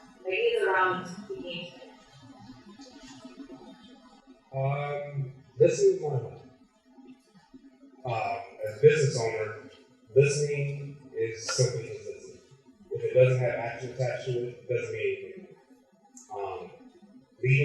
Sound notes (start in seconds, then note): none